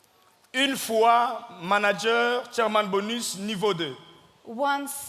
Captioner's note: speaking in French